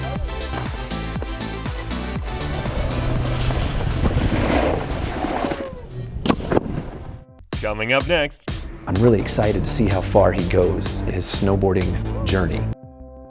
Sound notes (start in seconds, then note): 0.0 upbeat music; 2.2 wind howls